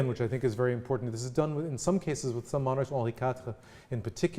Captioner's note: french